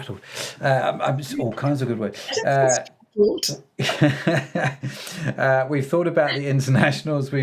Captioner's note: laughing